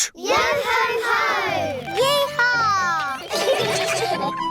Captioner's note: all giggle